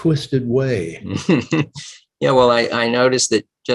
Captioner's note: laughing